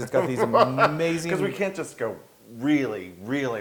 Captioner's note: laugh